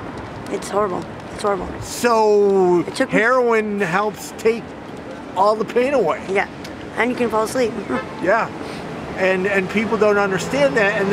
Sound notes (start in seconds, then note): 7.8 chuckles